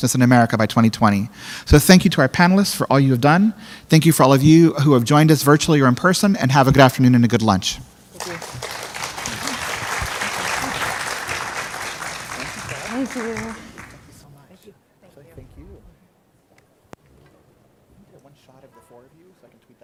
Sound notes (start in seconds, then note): 12.7 applause